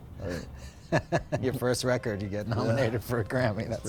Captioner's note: laughter